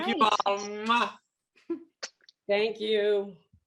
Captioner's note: chuckles